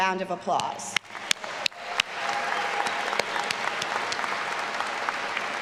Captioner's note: graduates applauding